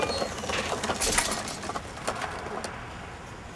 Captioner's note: gate clangs shut